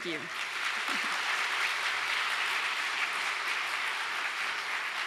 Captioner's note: audience applauding